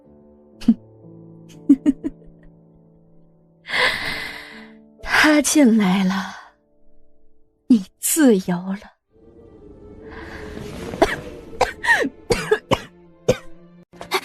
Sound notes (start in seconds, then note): 12.2 coughs